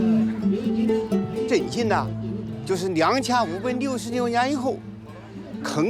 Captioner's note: hablan un idioma extranjero